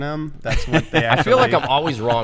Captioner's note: laughter